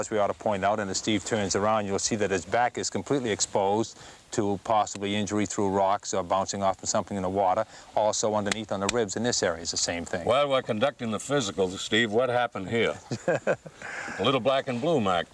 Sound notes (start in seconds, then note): 13.0 laughing